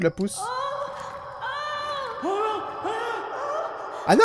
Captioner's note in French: Cris de douleurs d'Anastasia et de peur de Billy